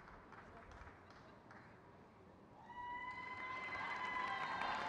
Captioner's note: crowd cheers